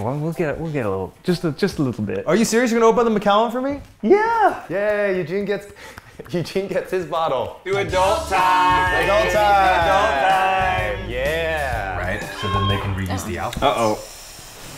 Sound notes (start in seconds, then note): 12.2 cries on monitor